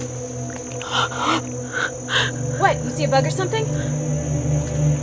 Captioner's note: gasps, heavy breathing